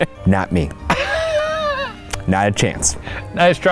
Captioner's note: chuckles